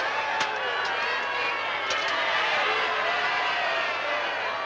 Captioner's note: truckling sound